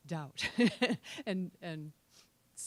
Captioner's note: laughing